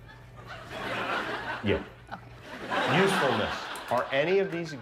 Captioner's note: laughter